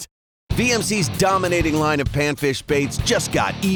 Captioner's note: voiceover